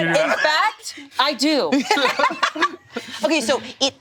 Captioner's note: laughs